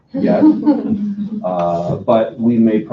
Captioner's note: laughing